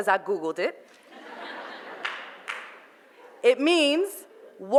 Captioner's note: audience laughter